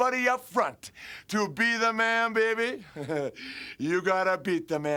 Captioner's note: Curt laughs